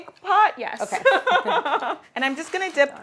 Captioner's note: laughing